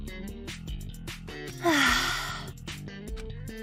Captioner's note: sigh